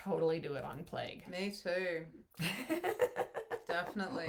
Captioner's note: laughs